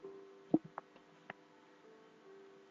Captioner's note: swallowing